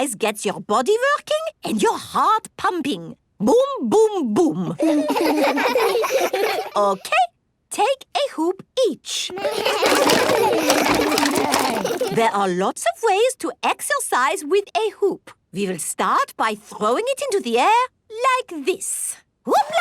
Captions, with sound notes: Exercise gets your body working and your heart pumping! Boom, boom, boom! (Laughs) Okay! Take a hoop each! (all laugh) There are lots of ways to exercise with a hoop! We will start by throwing it into the air like this.